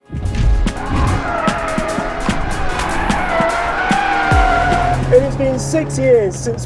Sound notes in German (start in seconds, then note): 0.0 energetische Musik; 0.7 Reifenquietschen